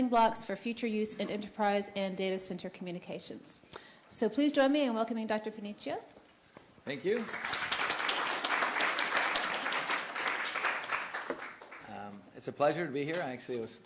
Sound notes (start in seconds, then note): 7.0 applause